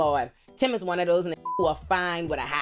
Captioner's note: beep